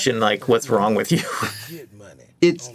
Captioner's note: chuckles